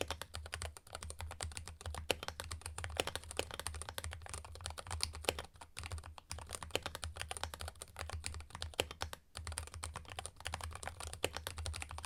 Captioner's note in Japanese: キーボードの音